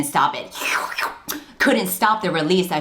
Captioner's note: slurping sounds